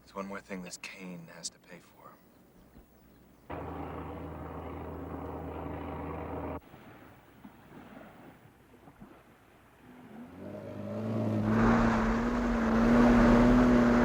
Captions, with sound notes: - That's one more thing this Kane has to pay for. (motor buzzing)